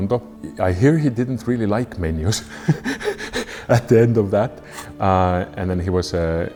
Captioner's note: laughs